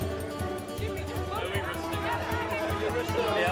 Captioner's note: people chattering and clamoring